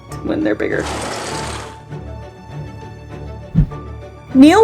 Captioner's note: background music; sound effects